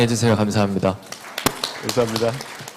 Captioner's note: claps